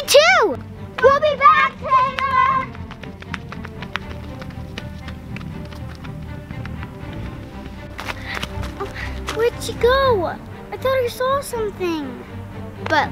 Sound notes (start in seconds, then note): 2.9 feet pounding